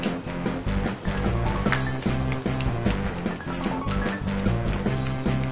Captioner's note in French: phone ringing